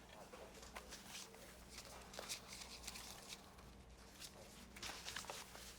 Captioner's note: cigarette pack rustles